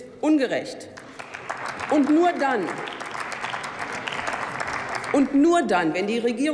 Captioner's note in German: Beifall beim BÜNDNIS 90/DIE GRÜNEN sowie bei Abgeordneten der LINKEN